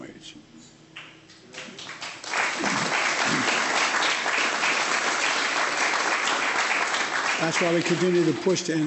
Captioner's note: applause